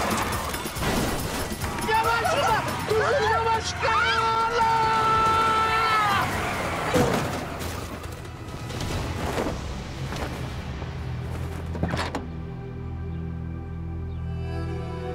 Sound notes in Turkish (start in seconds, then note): 0.0 Araba Çarpıyor; 11.6 Kapı Açılıyor